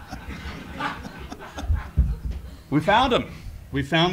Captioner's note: laugh